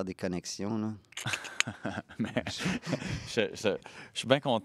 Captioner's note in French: rire